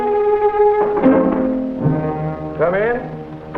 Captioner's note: door knocking